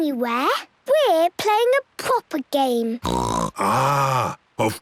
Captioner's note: snorts